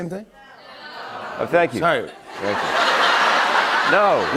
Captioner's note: laughter